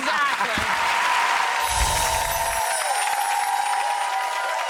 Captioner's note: audience cheering